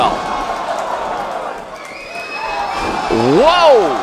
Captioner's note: crowd shouting and whistling